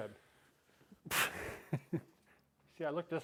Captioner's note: chuckles